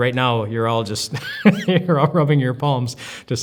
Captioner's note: laughs